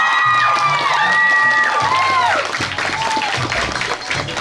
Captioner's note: applause continues